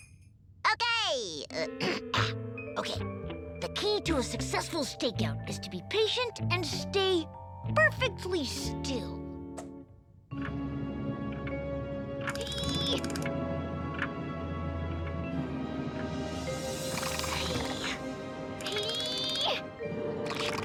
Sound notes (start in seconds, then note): 1.6 clears throat; 10.1 suspenseful music; 12.3 clock ticking